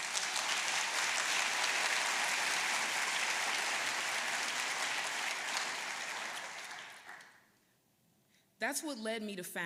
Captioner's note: applause